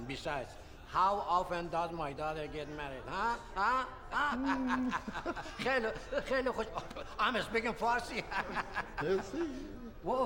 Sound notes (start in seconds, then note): 3.1 laughing; 5.8 speaking Farsi; 8.8 speaking Farsi